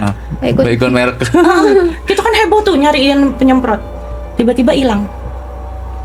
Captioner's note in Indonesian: tertawa